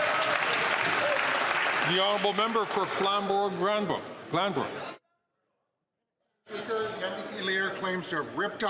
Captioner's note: applause